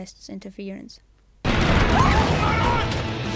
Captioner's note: kaboom